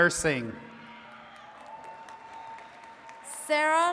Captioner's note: attendees cheering and clapping